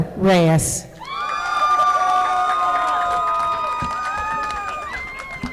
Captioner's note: audience applauding